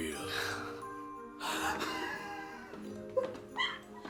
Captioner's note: Arizona laughs